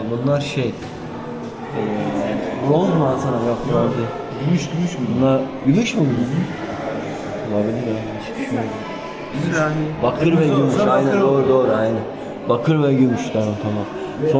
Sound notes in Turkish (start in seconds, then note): none